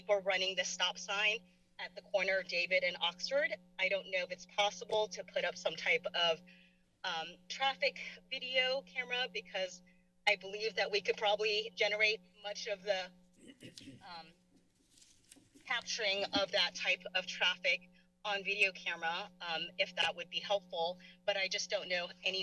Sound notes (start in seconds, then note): 13.4 clear throat; 14.6 paper rustling